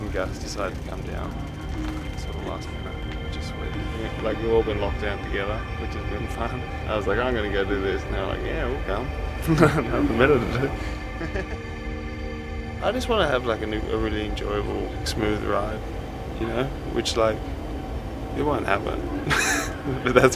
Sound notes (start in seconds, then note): 9.4 laughs; 18.4 laughs